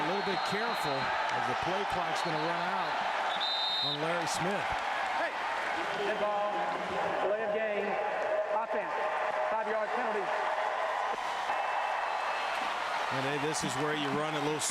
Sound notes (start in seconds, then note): 0.0 crowd noise